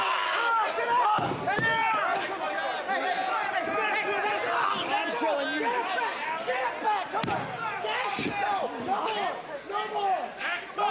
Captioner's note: crowd chatter